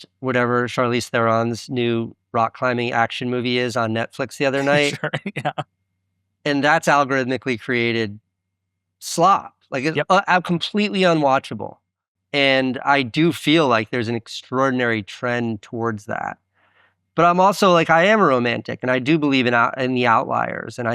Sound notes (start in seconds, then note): 4.5 laughs